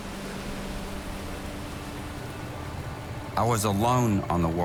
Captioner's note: boat engine hums